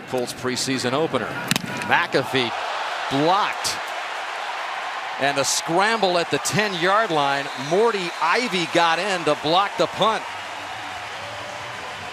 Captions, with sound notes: in the Colts' preseason opener. McAfee blocked. [cheering] And the scramble at the 10-yard line. Mortty Ivy got in to block the punt. [cheering]